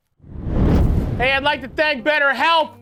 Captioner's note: flames roar